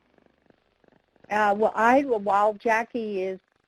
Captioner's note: voiceover